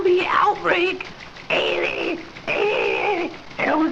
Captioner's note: more throat noises